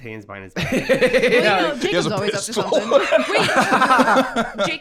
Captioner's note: laughs